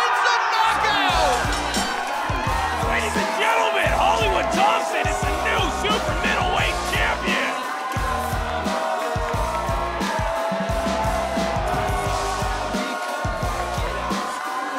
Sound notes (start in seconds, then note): 8.2 crowd cheering